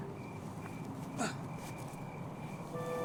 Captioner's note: grunting